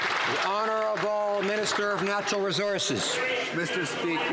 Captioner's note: some Applause